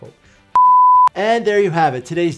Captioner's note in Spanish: pitidos de transmisión